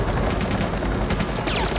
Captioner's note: gunshots